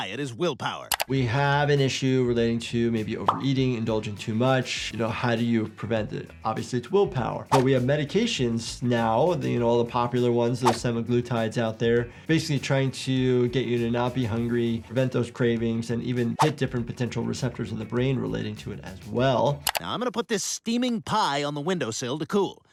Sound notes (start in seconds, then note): none